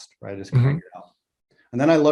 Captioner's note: audio warps